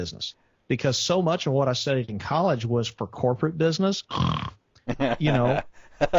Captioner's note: snore sound